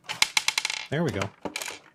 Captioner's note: screw rattling